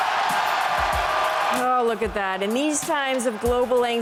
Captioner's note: cheers and Applause